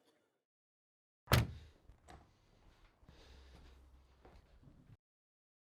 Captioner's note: door slamming